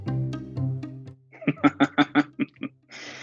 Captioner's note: laughs